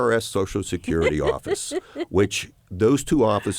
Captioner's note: laughter